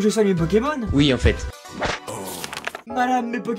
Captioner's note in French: Page qui se tourne